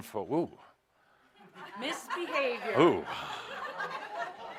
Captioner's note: laughter as helps him with the microphone equipment